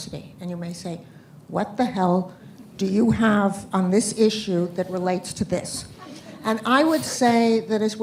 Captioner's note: laughter